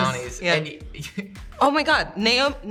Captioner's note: chuckles